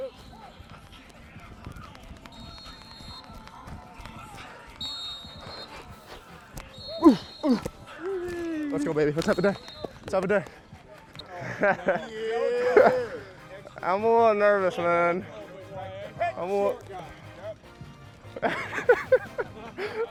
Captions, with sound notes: [whistle blows] [grunting] - Let's go, baby. Let's have a day. Let's have a day. [laughs] - Yeah! - I'm a little nervous, man. I'm a lil-- [laughs]